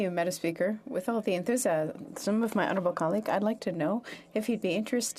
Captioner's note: speaking French